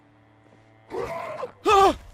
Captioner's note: zombie growls